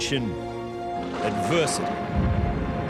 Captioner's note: wind howls